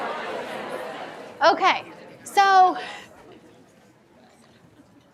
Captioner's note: laughs